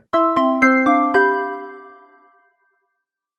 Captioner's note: logo chiming